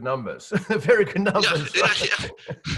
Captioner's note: chuckles